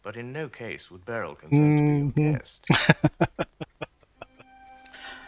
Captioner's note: laughing